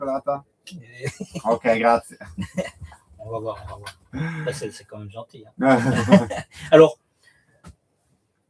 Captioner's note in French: rires